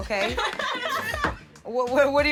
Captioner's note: laughter